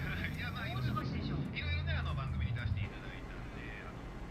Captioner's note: tv chatter